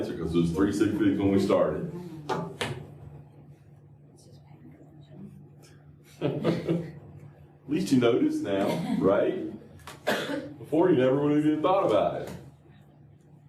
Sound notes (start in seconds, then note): 1.9 laughter